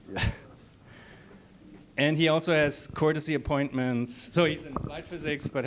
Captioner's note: chuckles